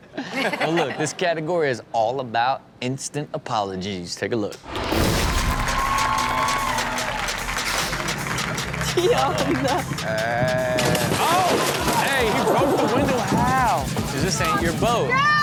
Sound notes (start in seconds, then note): 5.0 audience cheering and clapping; 6.7 upbeat music; 10.8 glass shattering